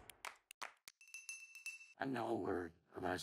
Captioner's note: hands clapping; bell jingling